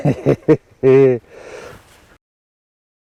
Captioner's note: laughing